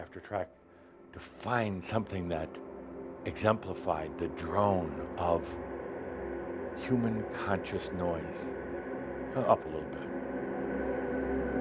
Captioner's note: drone begins again